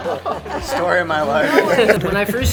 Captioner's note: laughs